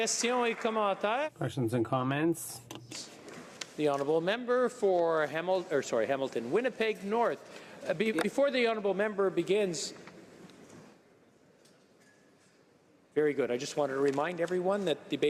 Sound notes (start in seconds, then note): 0.0 some applause; 5.0 speaking in french